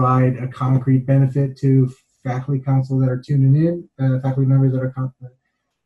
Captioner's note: murmurs